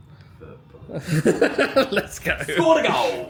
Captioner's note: laughs